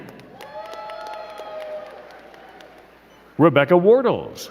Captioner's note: crowd cheering and clapping